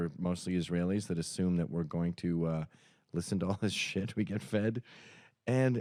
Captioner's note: laughs